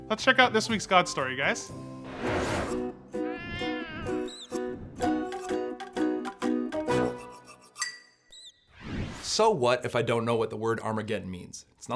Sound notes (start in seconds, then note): 3.2 cat meowing; 3.9 upbeat music